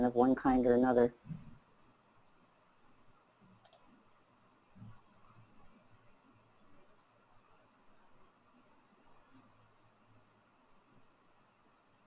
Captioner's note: silence